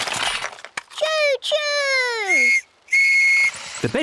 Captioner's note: blasts on whistle